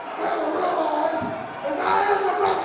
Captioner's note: crowd chatter